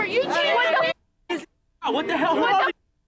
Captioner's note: muted